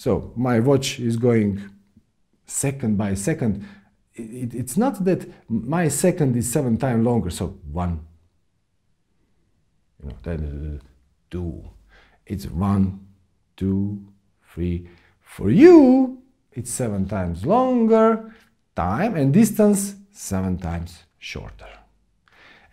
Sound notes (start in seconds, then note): 9.6 long pause